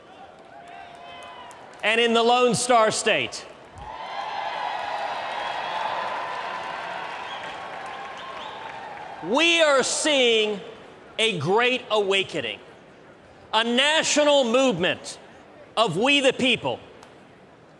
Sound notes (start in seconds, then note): 3.6 cheers, applause